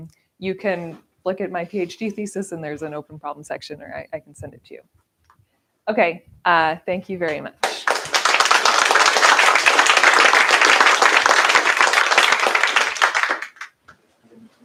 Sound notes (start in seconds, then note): 7.6 applause